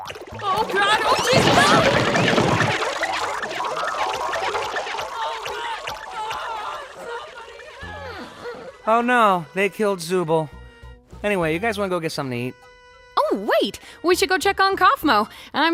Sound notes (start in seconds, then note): 2.3 Gloinks boinging, squeaking; 6.9 whimpers